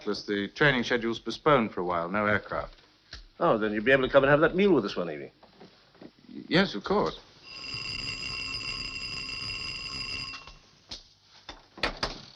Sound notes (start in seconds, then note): 7.5 bell ringing